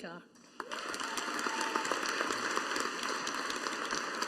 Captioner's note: audience applauding